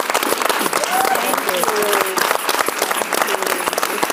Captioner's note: audience clapping; audience member whooping